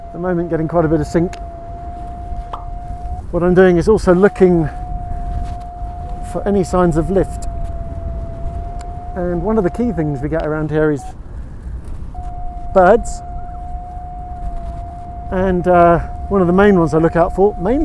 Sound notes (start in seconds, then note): 8.3 Vario beeps; 13.9 Vario beeps